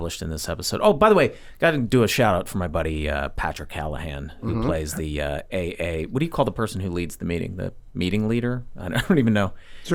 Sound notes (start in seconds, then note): 8.4 chuckles